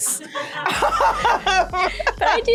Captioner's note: laughter